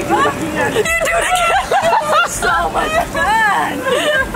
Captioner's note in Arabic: يضحك